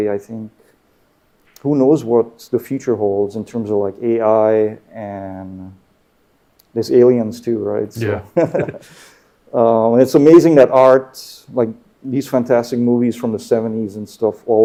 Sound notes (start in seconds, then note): 8.0 chuckles